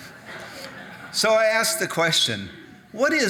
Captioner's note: audience laughing